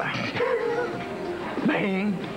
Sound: Rires

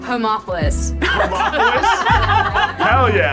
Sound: group laughs

